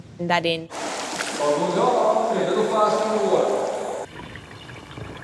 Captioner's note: background chatter